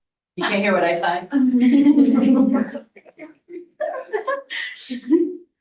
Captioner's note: laughter